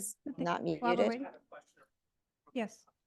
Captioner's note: background chatter